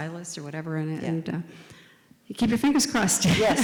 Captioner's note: laughs